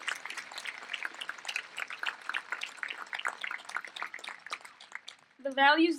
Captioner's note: applause